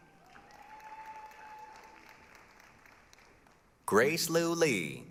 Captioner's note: applause, cheering